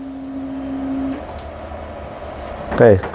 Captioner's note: printer machine noise; button noise